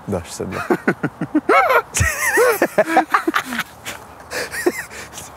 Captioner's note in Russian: оба смеются